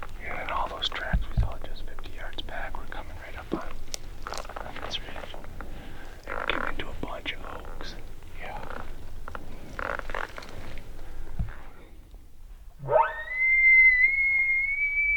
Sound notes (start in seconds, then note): 12.6 caller bugling